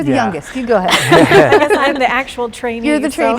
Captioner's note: laughing